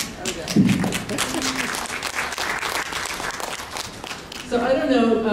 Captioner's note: laughter and Applause